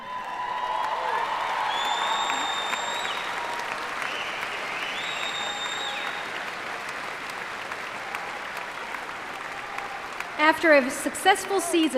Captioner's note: cheers and applause